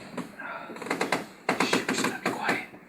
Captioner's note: bed creaking